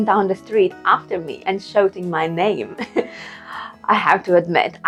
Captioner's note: laughs